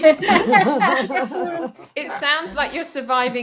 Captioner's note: panellists laughing